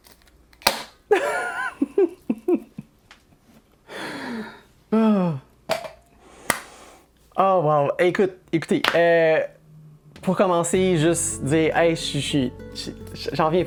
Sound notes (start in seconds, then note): 1.1 laughs; 4.1 breathless; 4.9 sigh